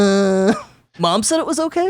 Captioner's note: giggles